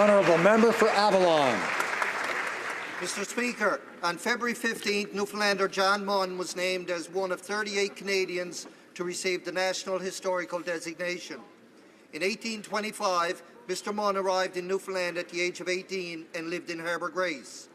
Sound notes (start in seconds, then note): 2.6 applause